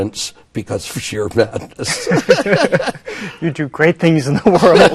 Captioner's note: laughs